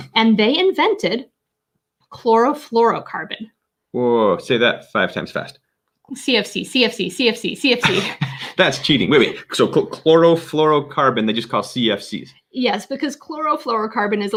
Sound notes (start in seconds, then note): 7.8 laughing